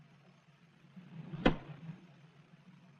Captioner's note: kick